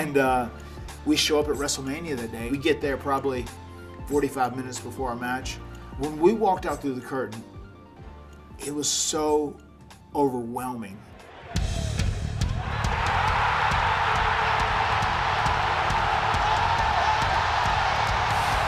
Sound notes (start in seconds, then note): 11.1 crowd cheering; 11.6 upbeat music